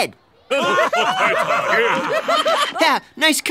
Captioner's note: laughing